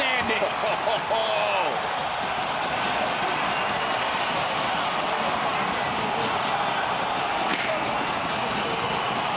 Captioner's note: cheering